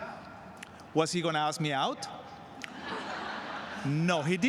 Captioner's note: laughter